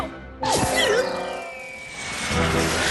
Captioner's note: whoosh